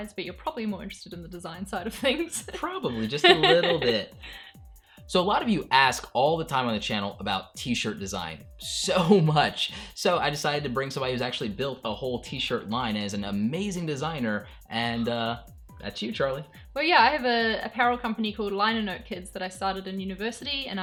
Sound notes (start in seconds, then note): 2.9 laughs